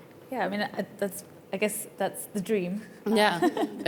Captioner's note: giggles